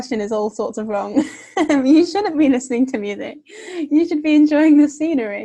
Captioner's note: laughing